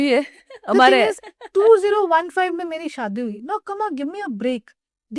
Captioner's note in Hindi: हंसी